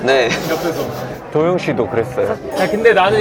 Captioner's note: calmly